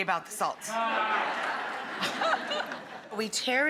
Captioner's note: audience laughing